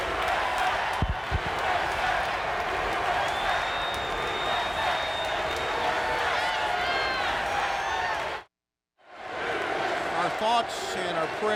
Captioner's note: crowd cheering